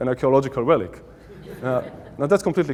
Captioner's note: audience Laughing